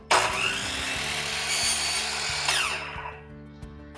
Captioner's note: saw whirs